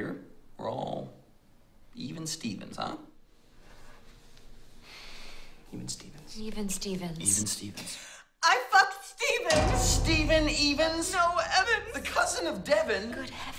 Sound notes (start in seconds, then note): 9.5 clang